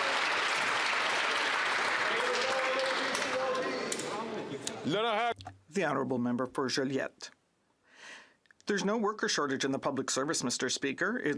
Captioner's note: some Applause